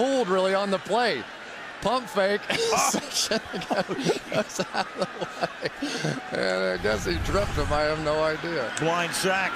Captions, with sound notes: He's fooled, really, on the play. Pump fake. Oh. [laughter] And I guess he tripped him. I have no idea.